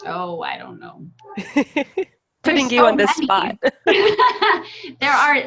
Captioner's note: laughter